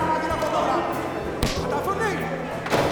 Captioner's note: slap on neck